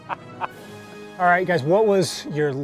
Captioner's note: laughter